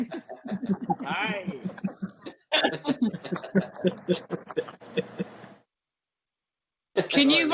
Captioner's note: laughter